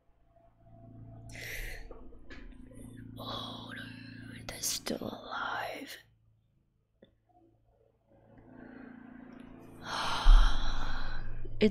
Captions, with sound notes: [sharp inhale] [whispers] Oh no... they're still alive. [long sigh]